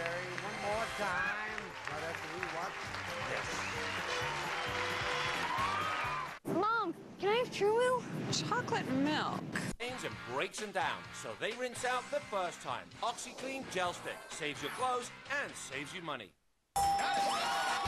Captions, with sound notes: Carol and Gary one more time right after we watch this. [audience applauding]